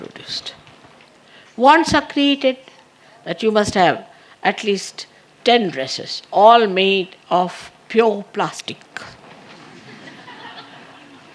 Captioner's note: laughter